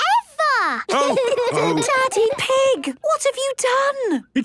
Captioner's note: laughter and snorting; laughter